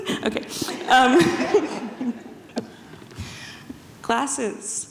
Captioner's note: audience chuckles